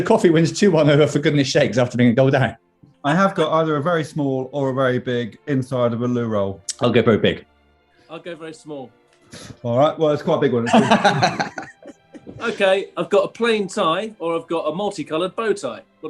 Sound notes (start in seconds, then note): 10.6 laughing